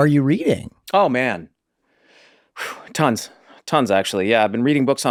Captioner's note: exhales audibly